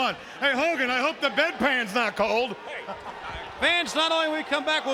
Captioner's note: laughing